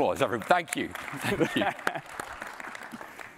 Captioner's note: applause